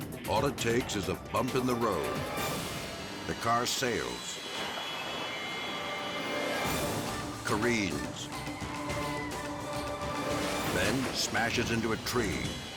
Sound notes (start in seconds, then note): 5.5 dramatic music; 8.2 tires screech